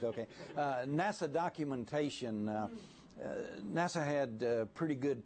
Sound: laughter

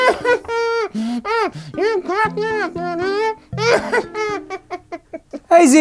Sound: zb laughs; zb laughs

